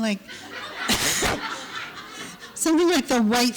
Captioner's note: laughter